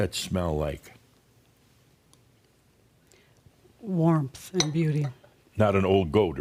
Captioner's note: slight pause